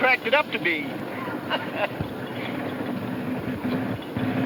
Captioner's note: chuckles